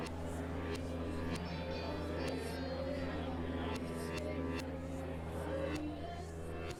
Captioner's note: audience chattering; warped music